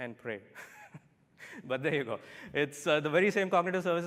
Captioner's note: laughter